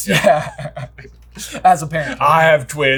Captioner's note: laughing